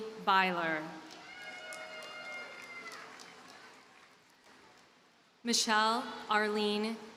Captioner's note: audience cheers and applauds